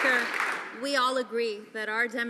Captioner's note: some Applause